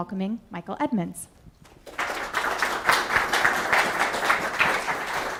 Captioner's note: applause